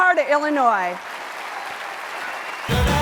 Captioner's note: applause